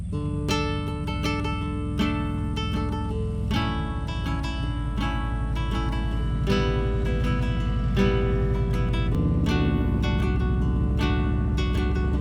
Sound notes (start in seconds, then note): 0.2 gentle uplifting music; 7.2 motorcycle engine roaring